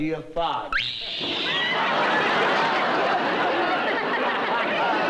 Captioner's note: screaming